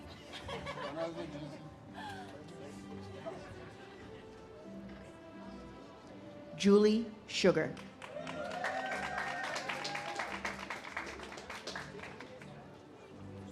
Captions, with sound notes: (audience laughs) Julie Sugar. (audience cheers and claps)